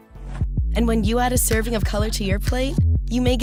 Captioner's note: voiceover